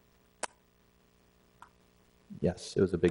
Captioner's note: silence